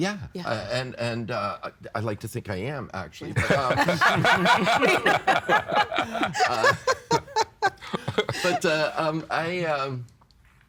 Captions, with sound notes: Yeah. And, uh, I'd like to think I am, actually. (All laughing) But, um, I...